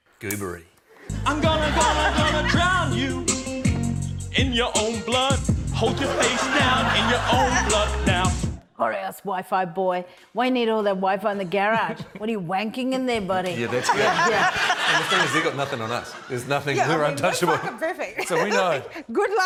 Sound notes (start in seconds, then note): 1.1 funky hip-hop beat plays; 5.9 laughter; 11.9 chuckles